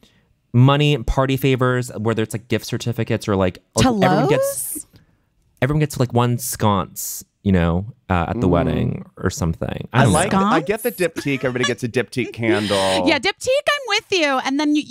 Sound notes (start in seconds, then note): 10.0 laughing